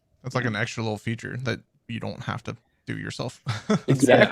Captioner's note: laughs